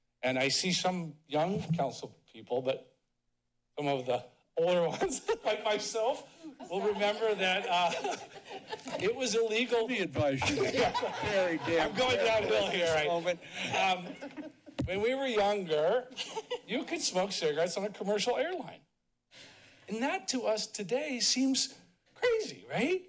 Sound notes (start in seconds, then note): 6.3 laughing; 10.3 laughing; 16.1 chuckles